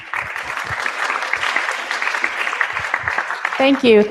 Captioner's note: applause